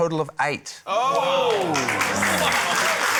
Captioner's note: exclaiming; applause